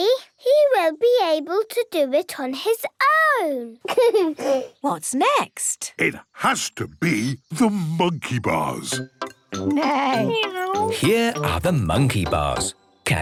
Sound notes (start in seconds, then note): 3.8 giggles